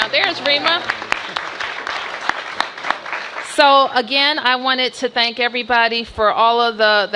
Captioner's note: applause